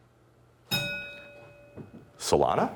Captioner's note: bell rings